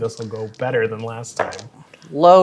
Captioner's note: dice rolling